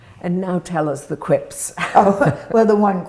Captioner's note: laughing